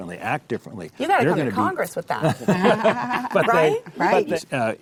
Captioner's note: laughs